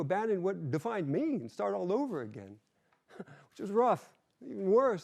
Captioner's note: chuckles